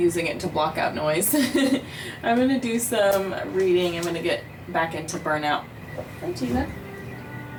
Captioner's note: laughter